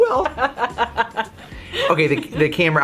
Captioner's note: laughing